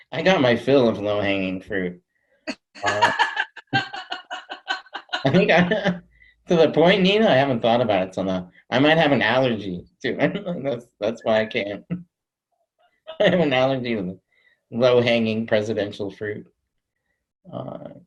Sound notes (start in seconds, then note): 2.8 laughs; 5.4 chuckles